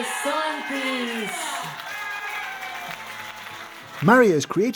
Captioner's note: crowd applauding